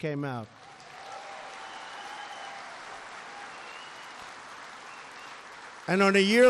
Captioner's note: applause